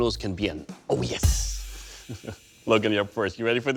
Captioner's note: chuckles